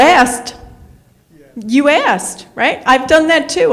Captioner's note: none